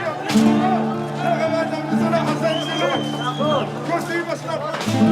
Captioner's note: Arabic spoken audio